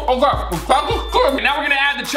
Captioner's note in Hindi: डिंग